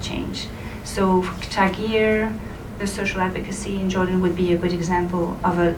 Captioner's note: foreign language spoken